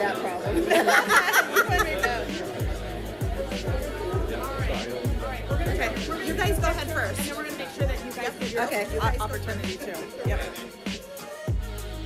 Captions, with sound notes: (laughing) You guys go ahead first. (upbeat music)